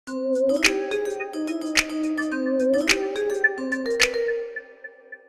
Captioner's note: bouncy bell chimes